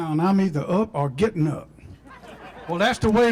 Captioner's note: applause